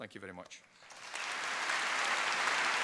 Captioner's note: applause